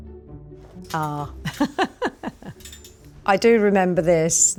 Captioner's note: intriguing mellow orchestral music; laughs